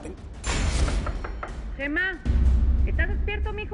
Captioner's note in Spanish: Toques en la puerta